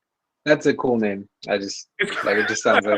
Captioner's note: laughs